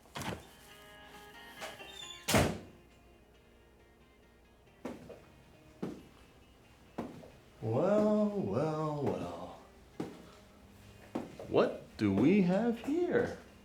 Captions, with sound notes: (door opens) (door closes) - Well, well, well. What do we have here?